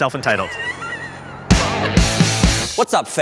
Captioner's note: laughs